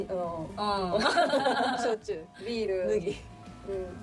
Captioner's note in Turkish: kahkaha